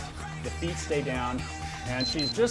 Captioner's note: beep sound